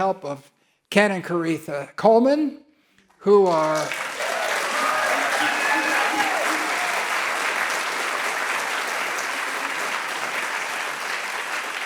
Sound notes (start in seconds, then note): 3.4 audience cheering and applauding